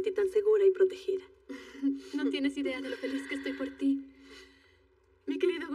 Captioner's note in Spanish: Ríe